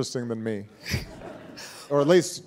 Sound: audience laughing

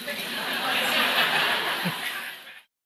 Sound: laughter

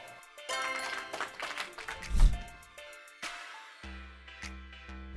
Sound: applause sound effect plays

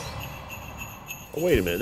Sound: christmas bell chimes

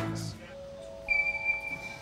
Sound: refrigerator beeps

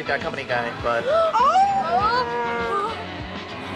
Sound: shirley and annie gasp

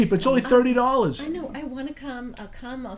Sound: voiceover

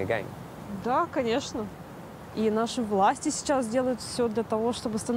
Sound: speaking in foreign language

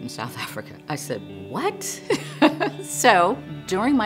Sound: laughing

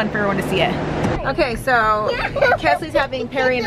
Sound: kids laughing

